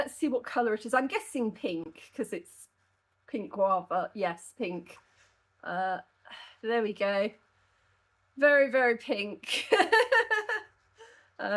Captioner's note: laughing